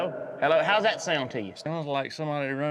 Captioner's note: says into microphone